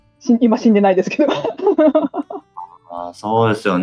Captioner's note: laughs